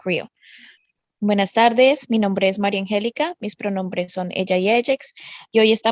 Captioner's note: speaking foreign language